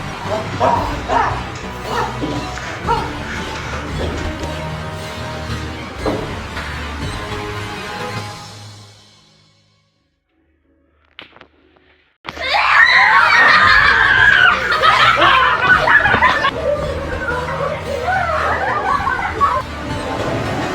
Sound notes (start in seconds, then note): 0.2 screams; 12.3 screams; 12.3 kids scream